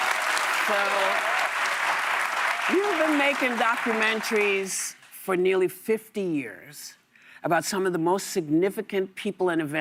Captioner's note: applause